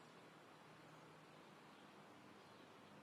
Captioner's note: none